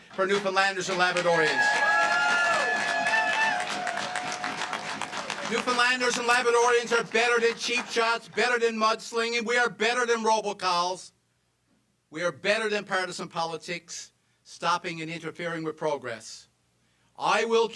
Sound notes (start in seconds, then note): 7.4 cheers and applause